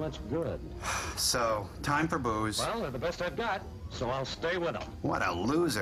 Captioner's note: sigh